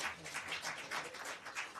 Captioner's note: applause